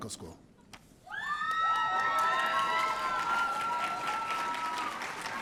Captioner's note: audience cheering